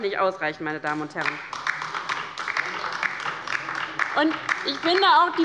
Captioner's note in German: Beifall bei der LINKEN